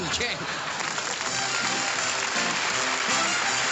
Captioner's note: applause